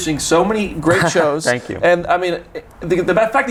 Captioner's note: chuckles